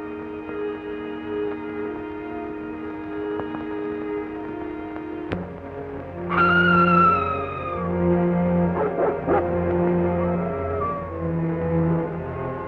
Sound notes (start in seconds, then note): 6.3 scream; 8.7 barking; 10.3 howling